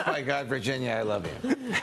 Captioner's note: laughter